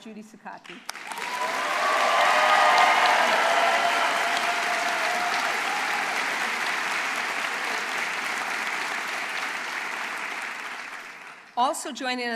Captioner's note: applause and Cheering